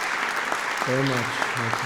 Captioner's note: applause